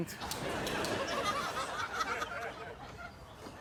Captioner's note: audience laughing